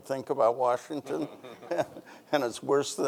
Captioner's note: chuckles